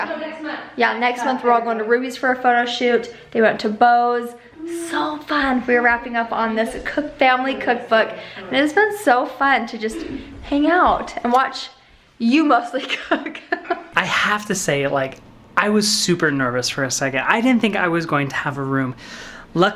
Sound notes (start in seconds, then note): 13.0 laughs